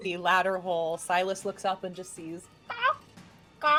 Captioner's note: squawking